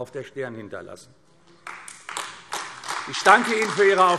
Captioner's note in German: Beifall AfD